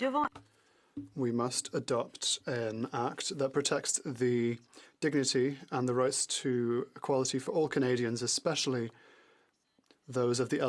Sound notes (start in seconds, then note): 2.9 speaking French